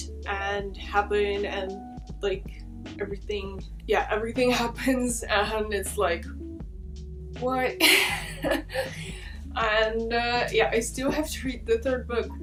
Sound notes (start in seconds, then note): 7.8 laughs